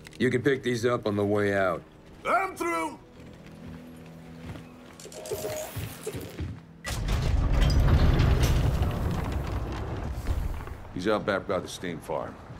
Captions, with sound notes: You can pick these up on the way out. I'm through. [Door opens] [Thunder rumbles] He's out back by the steam farm.